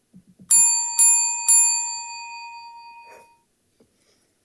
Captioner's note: bell dinging